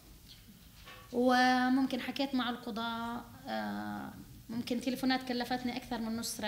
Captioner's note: speaking arabic